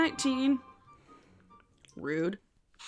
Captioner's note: computer dings